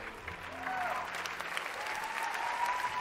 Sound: applause

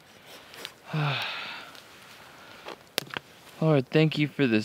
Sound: sighs

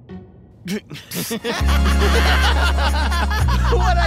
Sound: both laughing

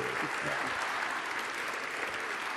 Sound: audience applause

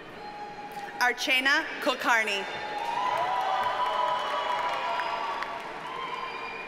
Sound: audience cheers and applauds

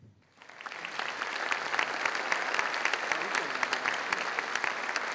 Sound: applause

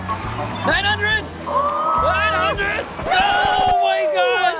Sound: oooh!

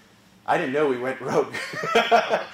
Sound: laugh

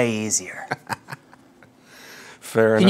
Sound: laughs

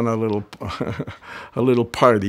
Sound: chuckles

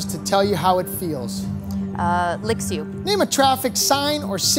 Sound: none

